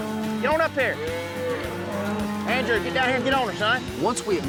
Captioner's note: mooing